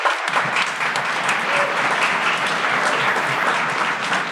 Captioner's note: audience applause